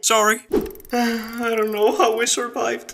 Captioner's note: sighs once again